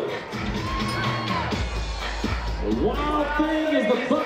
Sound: crowd cheers

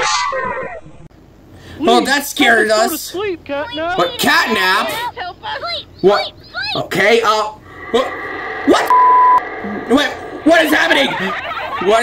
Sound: beep

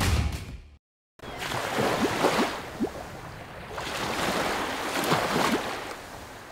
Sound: waves crashing and bubble sound effects

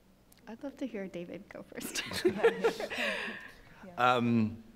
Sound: laughs

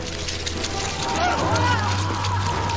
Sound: scuttling

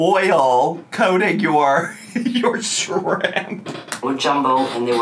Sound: laughs

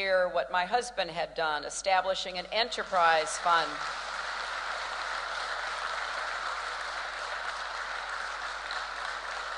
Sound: applause

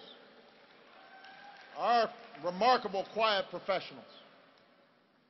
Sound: applause

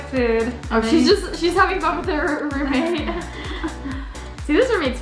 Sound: laughs

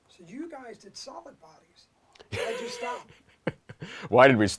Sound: laughter

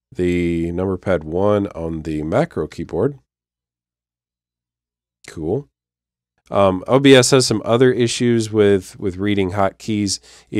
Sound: click

